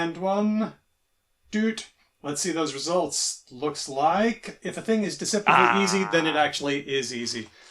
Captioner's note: beeps